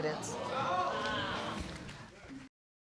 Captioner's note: audience exclaims